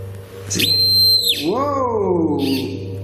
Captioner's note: machine squeaking